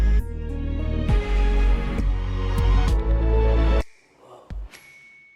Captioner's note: lively music; whooshing sound